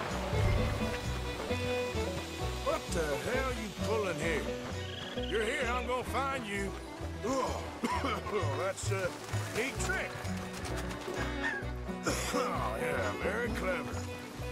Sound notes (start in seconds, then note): 7.7 coughs; 12.0 coughs